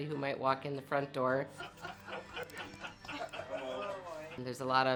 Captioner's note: group laughing